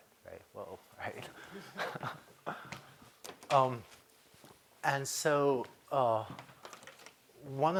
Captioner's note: laughter